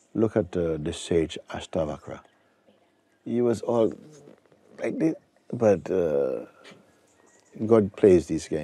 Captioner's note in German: imitiert starke Behinderung